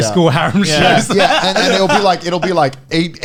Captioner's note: laughs